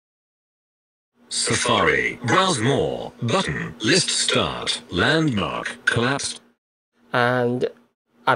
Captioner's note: computer voice